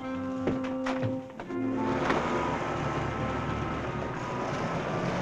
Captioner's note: cars driving